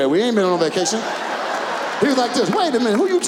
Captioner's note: audience laughs